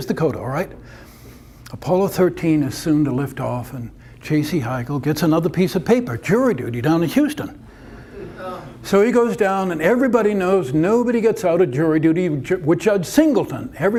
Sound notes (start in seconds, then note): none